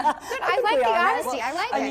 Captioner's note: laughter